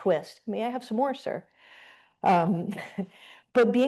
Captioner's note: chuckles